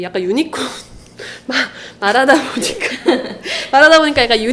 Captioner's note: ha ha